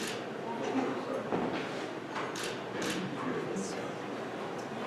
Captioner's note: camera clicking